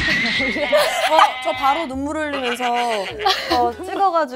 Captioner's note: dying laughing